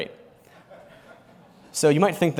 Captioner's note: laughter